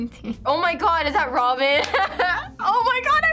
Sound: laughing

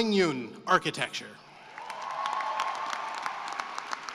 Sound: cheering and applause

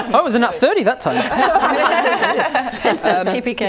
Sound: laughing

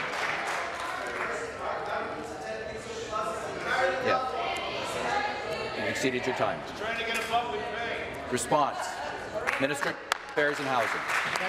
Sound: applause

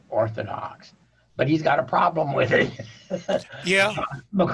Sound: chuckling

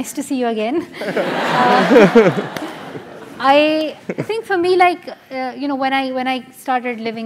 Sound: laugh

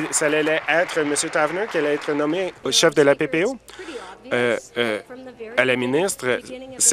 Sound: applause

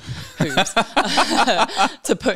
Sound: laughing

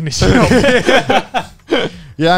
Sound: everyone laughs

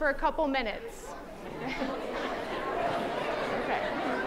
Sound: chattering

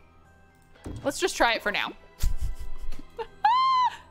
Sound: laughs

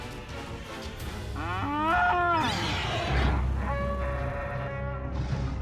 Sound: dinosaurs roaring

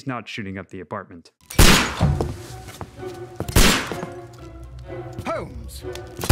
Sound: shots being fired at vases

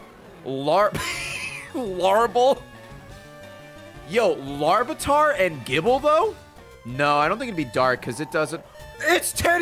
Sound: laughs

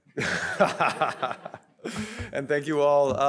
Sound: audience laughing; laughs

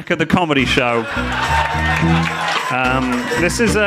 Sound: audience clapping

